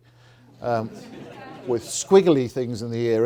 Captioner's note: audience laughs